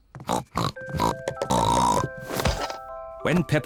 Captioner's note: snorting